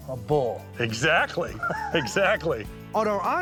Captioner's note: laughing